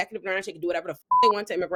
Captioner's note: beep